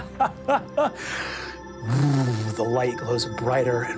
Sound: laughs

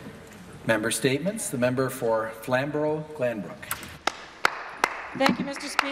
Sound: some Applause

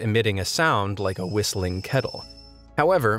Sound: kettle whistles

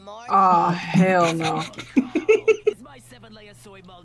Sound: laughs

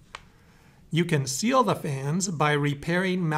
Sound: voiceover

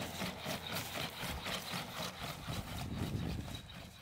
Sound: robot running

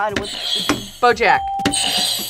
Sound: bell rings

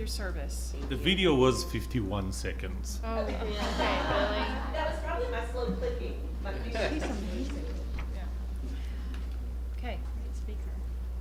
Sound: laughter

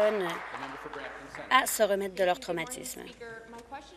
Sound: applause

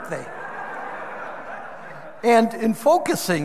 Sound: audience laughing

